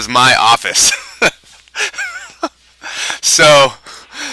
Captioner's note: laughs